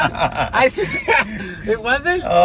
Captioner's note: laughing